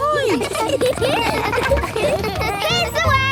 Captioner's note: laughter